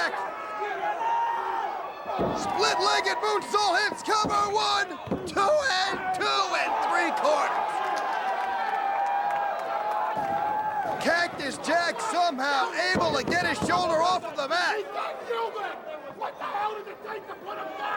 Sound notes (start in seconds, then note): 8.5 crowd cheering; 14.8 crowd chatter